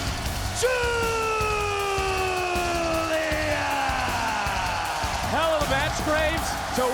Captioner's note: crowd cheers